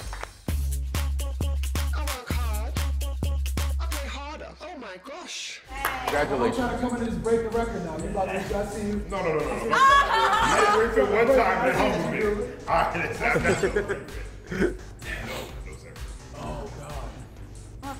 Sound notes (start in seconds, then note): 0.0 applause; 10.1 laugh